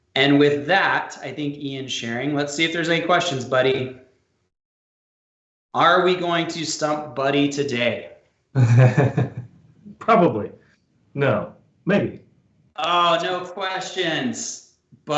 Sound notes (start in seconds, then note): 8.5 laughs